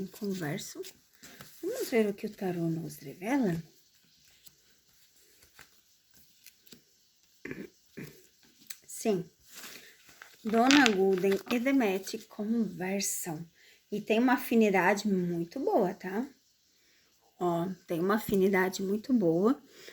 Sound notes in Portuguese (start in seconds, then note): 8.0 limpando a garganta